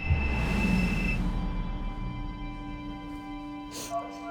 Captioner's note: heart monitor beeping continuously